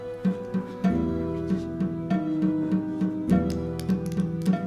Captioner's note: whispers